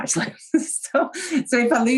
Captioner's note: chuckles